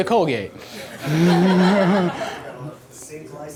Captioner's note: laughing; voiceover